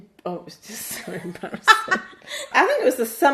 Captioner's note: laughs